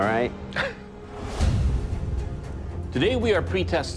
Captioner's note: chuckles